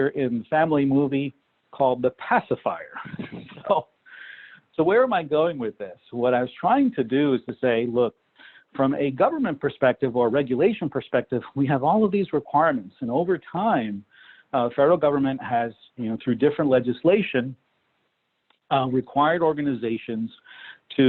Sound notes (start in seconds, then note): 2.9 laughs